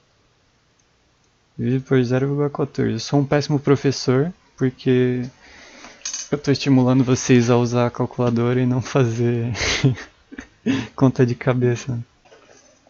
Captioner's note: laugh